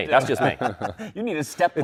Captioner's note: laughter